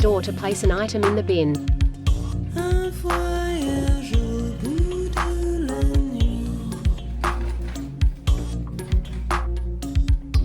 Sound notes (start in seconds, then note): 3.7 stool scooting